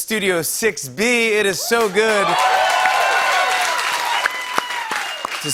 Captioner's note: cheers and applause